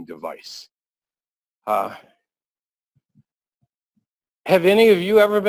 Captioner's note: pause